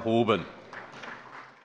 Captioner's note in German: Beifall bei Abgeordneten der CDU